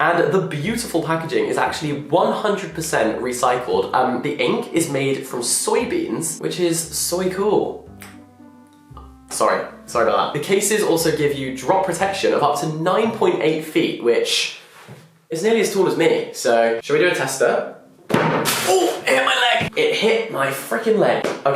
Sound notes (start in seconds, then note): 8.0 snaps fingers